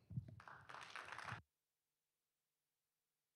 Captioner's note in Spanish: aplausos